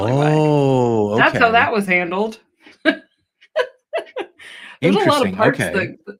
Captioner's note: laughter